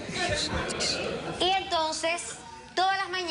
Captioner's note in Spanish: risas